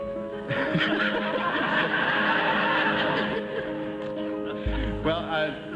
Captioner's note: laughter